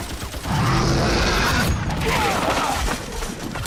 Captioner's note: roars; men yelling